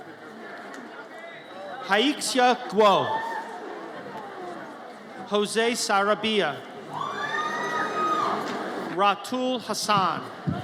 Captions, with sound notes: Haixia Guo. Jose Sarabia. (audience cheers) Ratul Hassan.